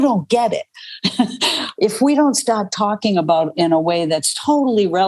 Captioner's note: laughs